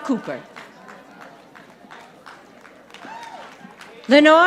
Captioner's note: audience applauding